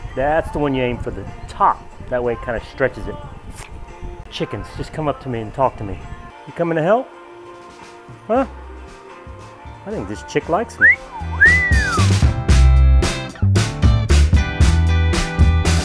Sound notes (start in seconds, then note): 10.7 man whistling; 12.8 upbeat rock music